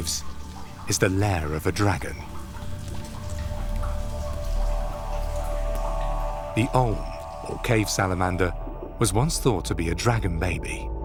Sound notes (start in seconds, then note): 3.9 water sloshes